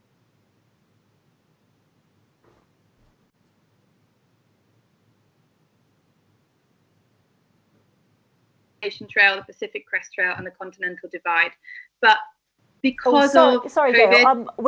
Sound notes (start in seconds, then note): 8.6 connection break up